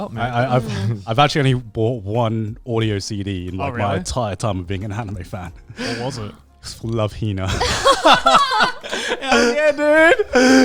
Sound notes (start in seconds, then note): 0.0 speaking in Japanese; 7.5 group laughing